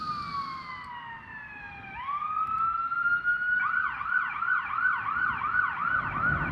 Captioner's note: siren